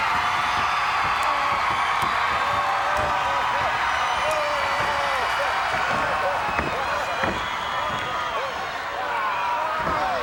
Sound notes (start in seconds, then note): 0.2 crowd cheers; 4.5 Hogan screaming